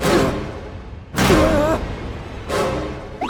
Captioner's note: terrified gasp; horrified gasp